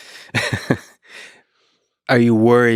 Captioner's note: Lex laughs